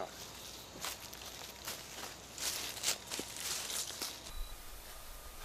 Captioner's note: leaves crunching